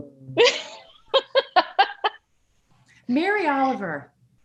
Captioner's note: laughs